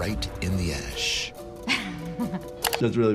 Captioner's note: laughs